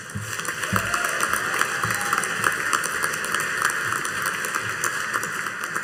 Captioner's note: audience cheering and applauding